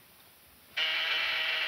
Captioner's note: intercom buzzing